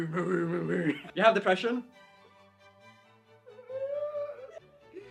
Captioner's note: cries